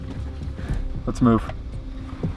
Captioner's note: mask rattling